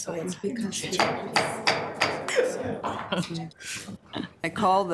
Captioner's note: gavel bangs